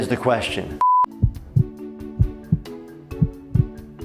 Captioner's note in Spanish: latidos del corazón